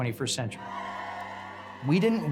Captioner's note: crowd noise